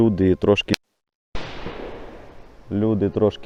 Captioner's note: sound of shot in the background